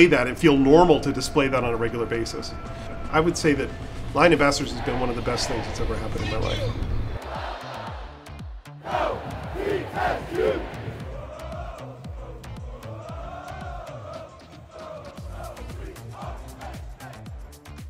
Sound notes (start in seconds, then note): 4.6 crowd; 11.4 crowd chanting; 17.6 groovy music